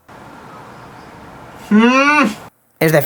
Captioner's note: spanish hatred